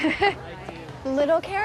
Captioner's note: laughs